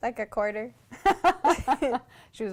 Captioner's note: laughter